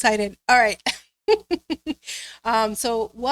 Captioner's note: laughing